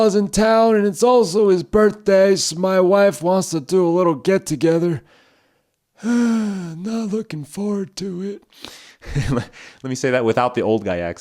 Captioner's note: sigh